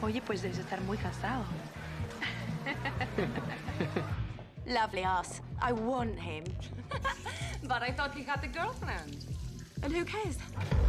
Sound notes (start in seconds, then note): 6.7 tertawa